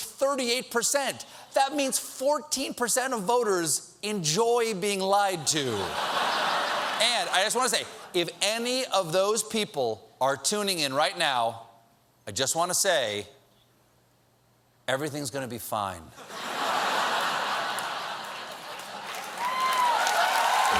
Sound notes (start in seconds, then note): 16.2 laughter; 17.6 cheers and applause